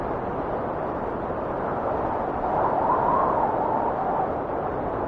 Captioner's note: wind whistling continues